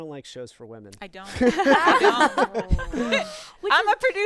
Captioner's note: group laughing